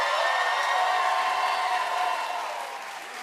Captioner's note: cheers and applause